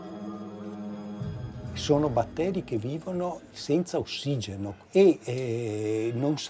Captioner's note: speaking in foreign language